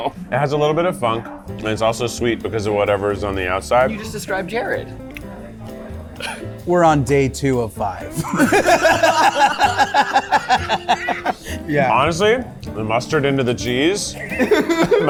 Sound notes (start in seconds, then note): 8.1 laughter